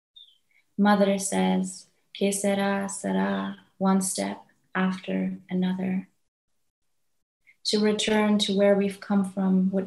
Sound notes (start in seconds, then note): 1.8 speaks in foreign language